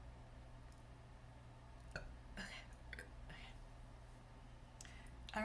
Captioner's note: burps again; burp